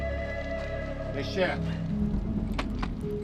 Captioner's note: speaking local language